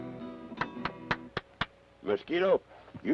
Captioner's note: Carney applauds